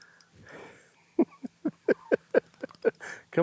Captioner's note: chuckling